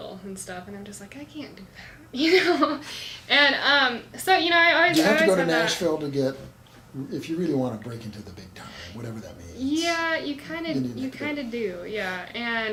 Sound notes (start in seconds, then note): 2.5 laughs